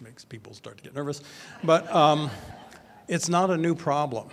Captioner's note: audience laughs